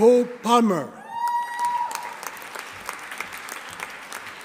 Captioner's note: audience applauding